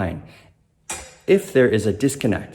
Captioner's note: metal clanging